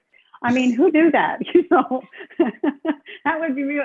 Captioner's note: laughs